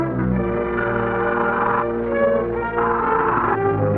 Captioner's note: serpent snarls; serpent screeching